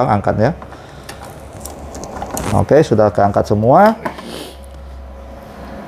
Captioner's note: screwdriver noise; damper clip noise